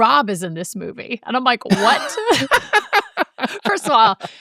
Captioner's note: laughing